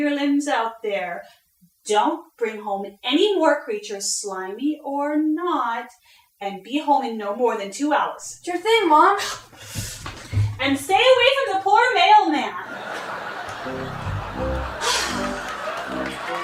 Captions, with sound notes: don't bring home any more creatures, slimy or not, and be home in no more than two hours. Sure thing, Mom! And stay away from the poor mailman! [audience laughing] [audience applauding]